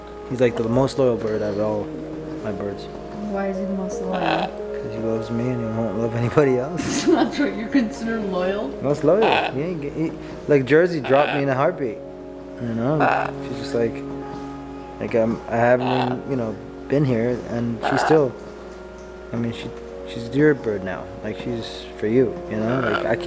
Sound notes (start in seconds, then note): 4.0 bird squawks; 6.7 laughing